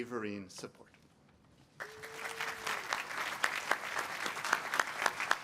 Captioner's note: applause